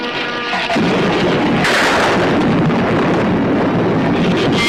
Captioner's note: thunder claps; shrews screech